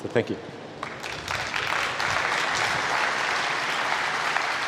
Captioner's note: applause